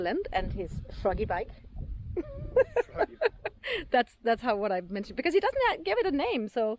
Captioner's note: laughing